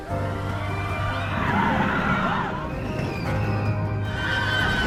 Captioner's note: bright keyboard music; riders screaming